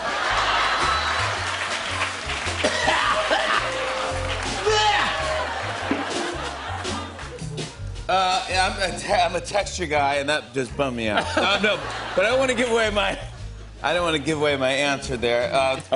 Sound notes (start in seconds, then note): 0.0 laughter and applause; 2.6 coughing; 11.1 laughter